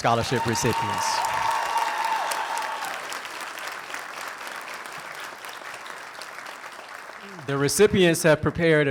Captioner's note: applause